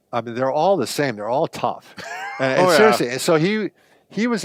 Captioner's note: laughs